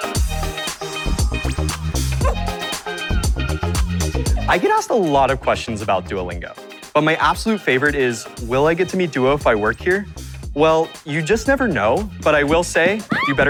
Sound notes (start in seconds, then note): 2.2 dog barking; 13.0 girl screaming